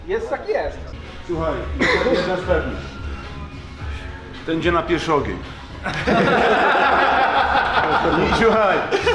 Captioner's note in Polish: śmiech